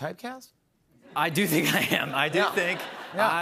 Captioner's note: laughter